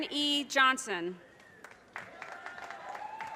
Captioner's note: audience cheers and applause